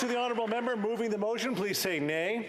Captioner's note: applause